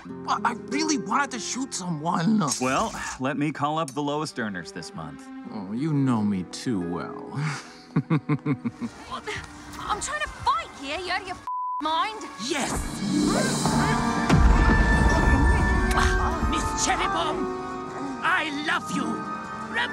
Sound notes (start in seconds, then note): 7.4 chuckles; 11.4 beep; 13.5 romantic music; 13.7 bomb explodes